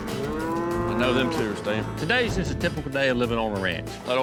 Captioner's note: cows mooing